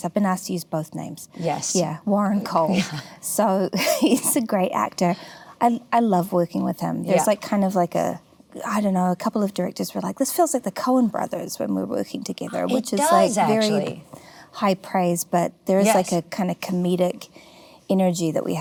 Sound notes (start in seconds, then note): 2.6 laughs